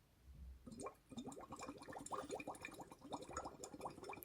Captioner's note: water gurgles